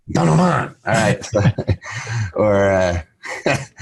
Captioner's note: laughs